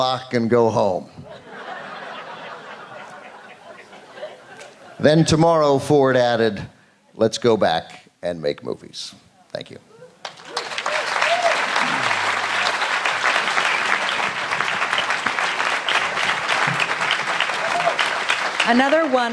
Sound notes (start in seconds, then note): 6.8 laughter; 14.5 applause